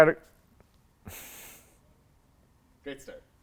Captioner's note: giggling